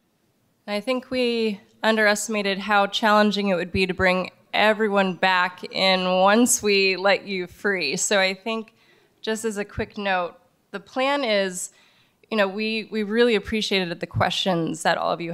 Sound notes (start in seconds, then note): none